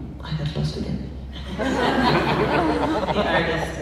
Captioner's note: laughs